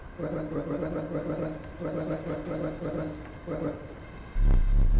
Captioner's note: clock chimes; Stunted Wolf chattering